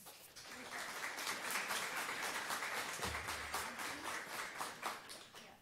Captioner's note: audience applause